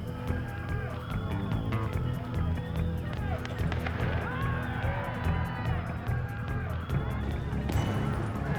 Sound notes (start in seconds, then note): 0.1 suspenseful music; 2.4 crowds cheering